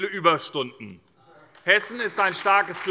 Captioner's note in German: Beifall bei der SPD